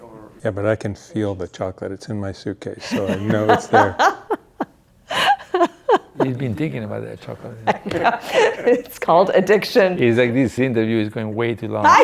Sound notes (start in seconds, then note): 5.1 laughing